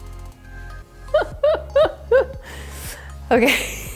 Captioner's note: laughs